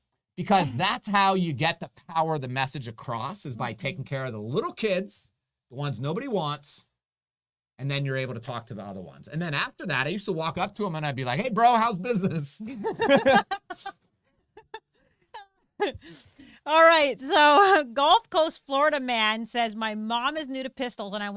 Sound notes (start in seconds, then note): 12.6 both laughing